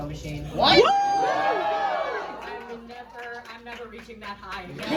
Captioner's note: crowd cheers